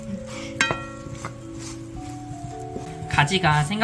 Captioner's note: sizzle